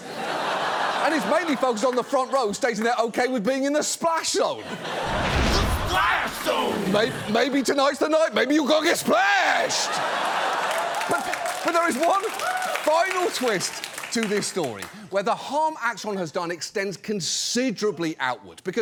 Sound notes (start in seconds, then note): 0.0 audience laughs; 9.0 audience laughs, cheers